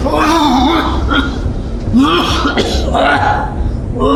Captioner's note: glove slaps; Hawk coughs